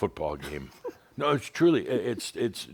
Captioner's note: chuckles